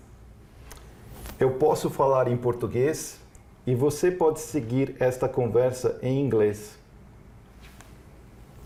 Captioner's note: speaking portuguese